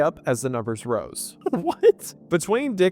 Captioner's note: laughs